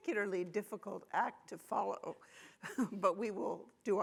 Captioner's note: chuckles